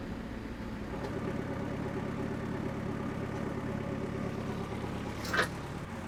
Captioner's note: forklift engine rumbling